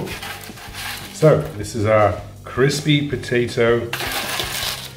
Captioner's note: spatula scrapes pan